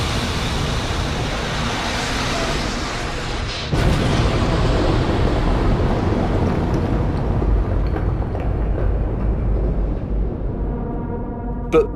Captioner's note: soundbite of drone striking